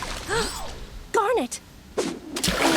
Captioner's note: gasp